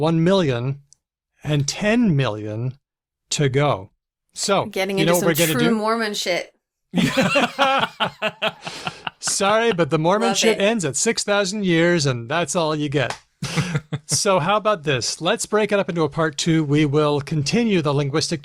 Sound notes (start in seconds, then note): 6.9 laughter; 13.4 laughs